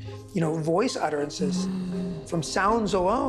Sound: hum

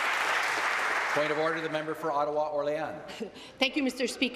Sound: applause

